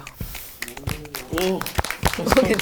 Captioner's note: applause